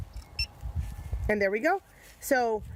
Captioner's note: machine beeps